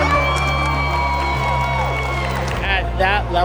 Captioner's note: cheering